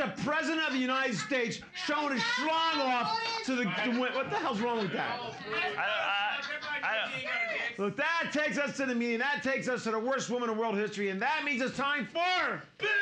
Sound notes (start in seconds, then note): 5.6 audience shouting